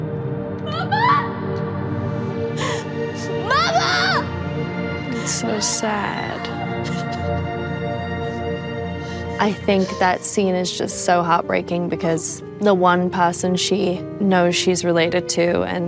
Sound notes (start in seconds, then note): 2.6 sobbing